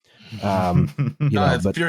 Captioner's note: laughter